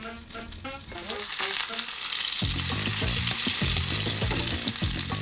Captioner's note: food sizzles